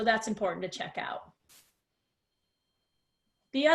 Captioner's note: silence